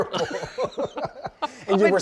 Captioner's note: laughs